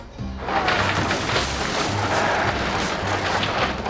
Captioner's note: yacht crumbling